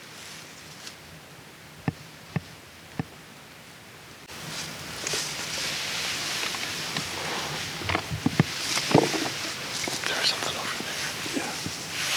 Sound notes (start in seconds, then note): 1.8 faint thumps; 10.0 whispers